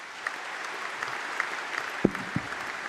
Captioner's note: applause